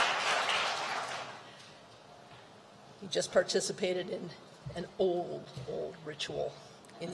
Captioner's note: applause